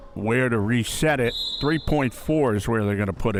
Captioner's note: whistle chirping